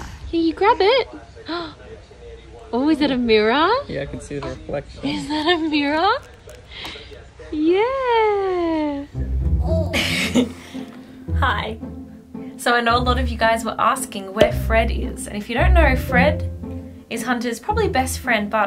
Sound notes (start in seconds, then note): 9.7 giggles; 14.4 notification pops